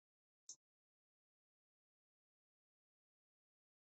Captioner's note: mouse clicking